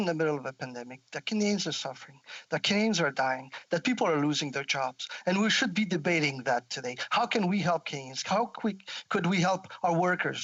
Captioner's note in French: voix de l'interprète